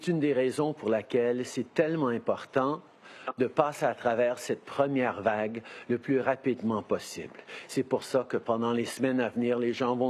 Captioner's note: speaking in French